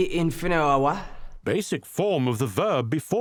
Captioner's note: voiceover